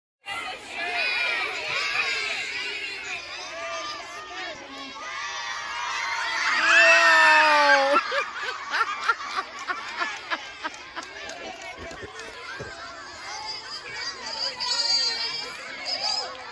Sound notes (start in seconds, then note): 0.6 student crowd roaring, cheering, laughing